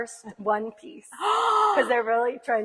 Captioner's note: gasps